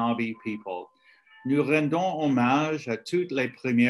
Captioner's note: speaking French